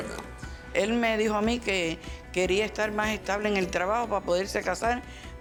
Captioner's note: speaking Spanish